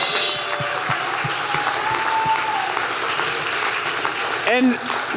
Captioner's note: applause